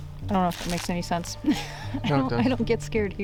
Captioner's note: laughing